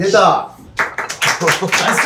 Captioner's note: claps